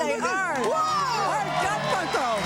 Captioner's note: audience applause